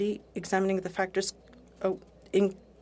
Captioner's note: speaking French